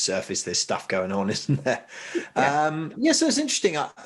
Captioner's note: chuckling